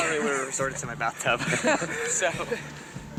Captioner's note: both laugh